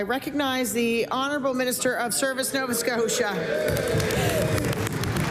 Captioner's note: applause